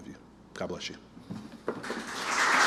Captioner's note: applause